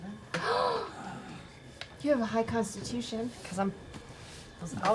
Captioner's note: gasps